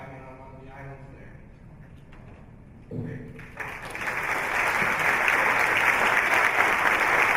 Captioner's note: applause